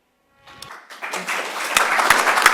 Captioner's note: applause